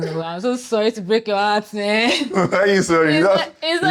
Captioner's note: laughs